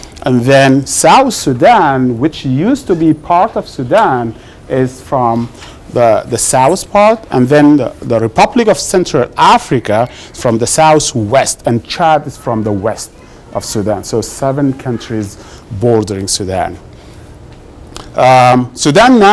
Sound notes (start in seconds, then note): none